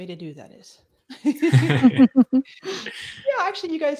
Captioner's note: laughs